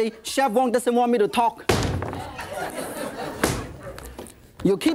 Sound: dough slaps repeatedly against table

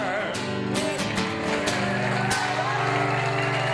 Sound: audience cheers

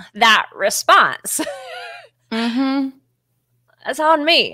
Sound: laughs

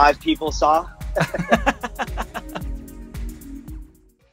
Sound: laughs

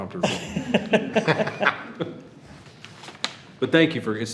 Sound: trustees laugh

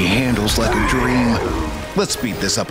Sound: growl

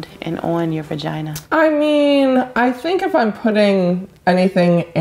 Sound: none

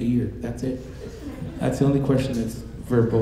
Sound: audience laughing

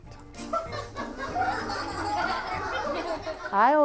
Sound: people & children laughing

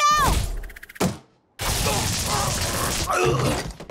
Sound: grunting

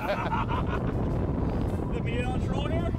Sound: both laughing

